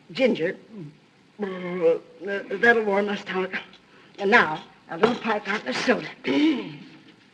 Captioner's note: burps